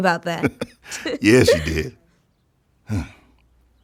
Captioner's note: laughing